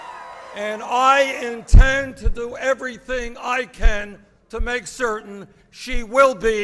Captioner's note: applause